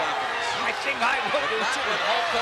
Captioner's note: laughs